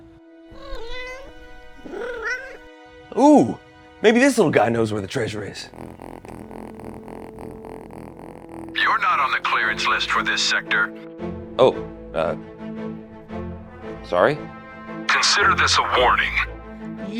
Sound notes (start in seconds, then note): 0.1 animal noises; 6.7 purring noises